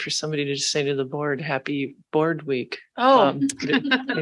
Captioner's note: laughs